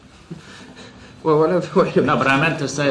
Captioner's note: laughs